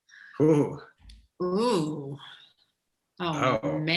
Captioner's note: both chuckle